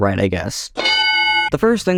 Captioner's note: ding